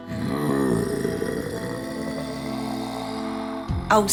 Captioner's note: growl